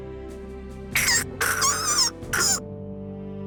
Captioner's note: really serious pulling grunt; strained pulling grunts